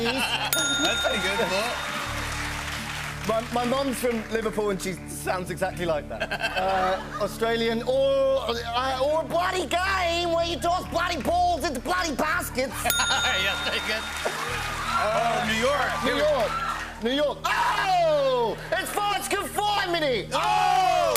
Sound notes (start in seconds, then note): 0.5 ding; 3.2 normal voice; 7.7 Australian accent; 12.9 ding; 16.8 new York accent